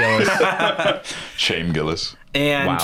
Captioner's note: laughs